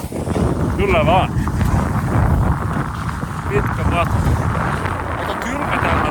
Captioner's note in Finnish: tuulen kohinaa